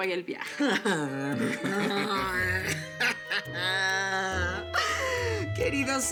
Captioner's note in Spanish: Risas sarcásticas